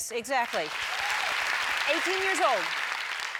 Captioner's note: audience applauds